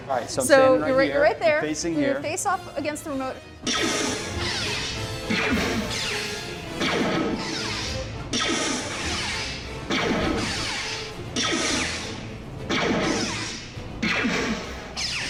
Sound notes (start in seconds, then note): 3.7 lasers blasting; 11.3 lasers blasting